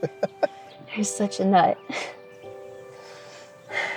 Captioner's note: laughs; chuckles